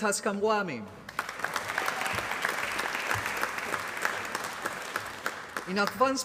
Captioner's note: applause